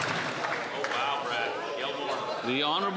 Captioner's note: some Applause